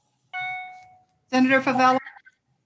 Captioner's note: notification pings